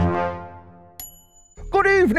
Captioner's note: ding